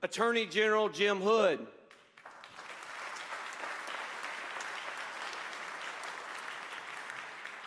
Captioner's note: applause